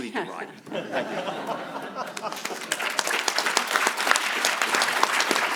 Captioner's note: audience laughing and clapping